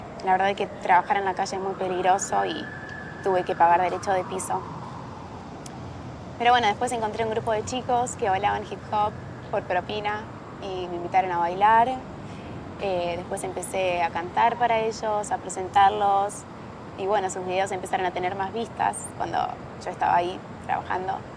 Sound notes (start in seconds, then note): 0.0 siren